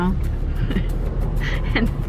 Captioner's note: chuckles